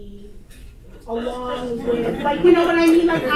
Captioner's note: audience laughter